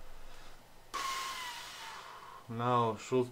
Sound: pfffffft

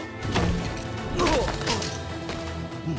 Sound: grunting

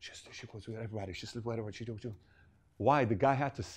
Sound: whisper

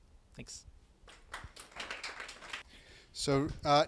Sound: group applauding

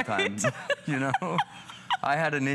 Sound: laughter

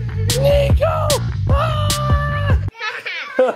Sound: continues to shriek; giggles

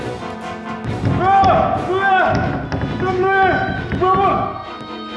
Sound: muffled screaming

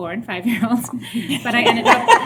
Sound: laughter

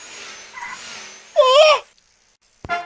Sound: pigeon crying

